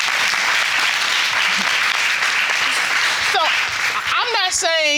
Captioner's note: applause